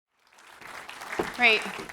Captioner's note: applause